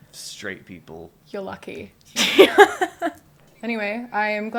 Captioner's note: laughter